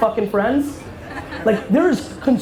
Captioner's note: audience laughter